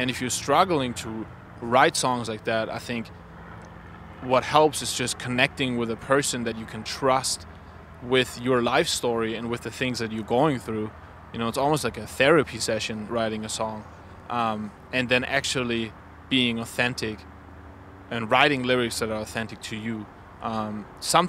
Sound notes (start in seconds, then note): none